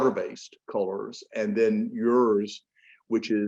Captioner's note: none